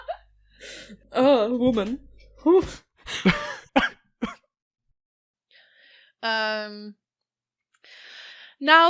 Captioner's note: laughs